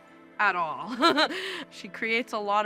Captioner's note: laughs